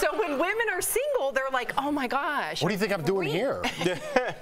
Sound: laughter

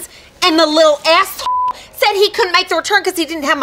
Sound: beep

